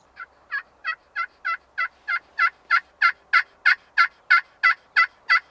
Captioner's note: multiple turkey calls; multiple turkey calls